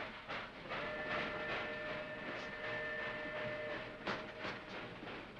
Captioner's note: train chugs; train chugs away; train whistle blows; train chugs